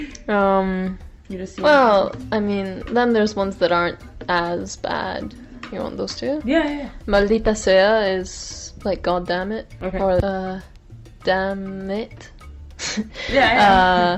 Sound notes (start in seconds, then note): 7.8 speaking Spanish